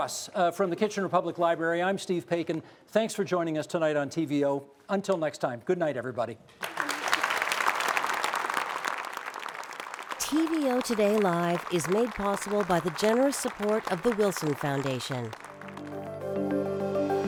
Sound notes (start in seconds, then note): 6.6 applause